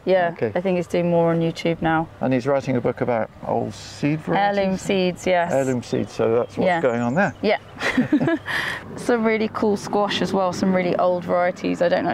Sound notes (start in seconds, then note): 7.7 laugh